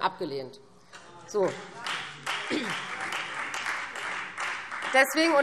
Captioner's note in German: Beifall Freie Demokraten